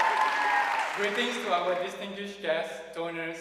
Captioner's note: audience cheering and applauding